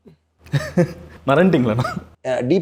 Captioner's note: laughs